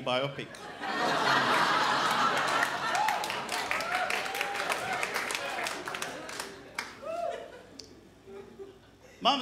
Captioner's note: crowd laughs